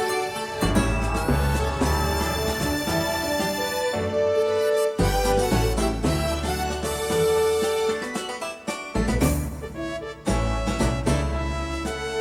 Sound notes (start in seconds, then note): 0.0 train whistle blowing; 9.1 western-themed orchestra music